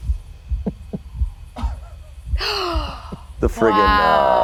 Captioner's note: heart beating; gasps